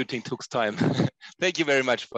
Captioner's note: laughter